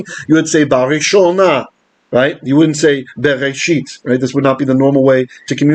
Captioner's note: Hebrew